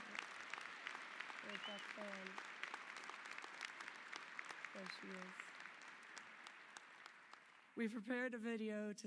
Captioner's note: applause